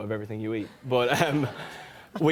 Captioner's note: laughter